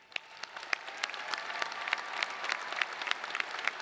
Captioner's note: audience applauding